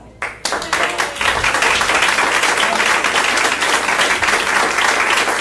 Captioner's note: all clapping and cheering